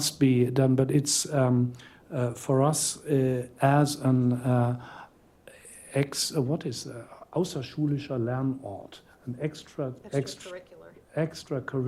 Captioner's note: non-english